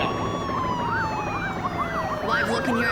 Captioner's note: sirens and helicopter continue